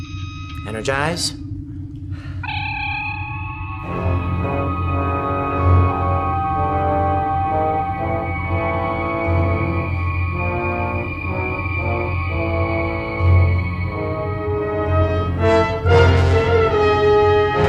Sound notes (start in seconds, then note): 2.5 transporter energizing